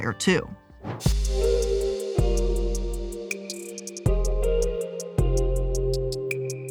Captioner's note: soft music; air whooshes